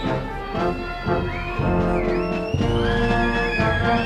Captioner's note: cheering